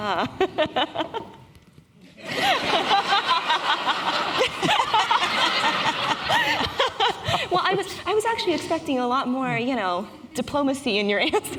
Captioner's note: laughter